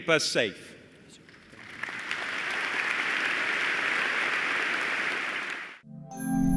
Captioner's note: applause